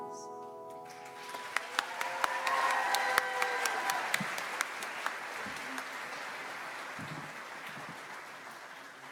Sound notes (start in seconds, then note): 0.9 audience applauds